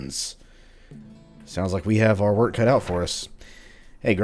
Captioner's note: journal closes